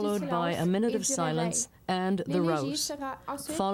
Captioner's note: speaking French